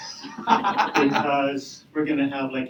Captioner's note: audience laughing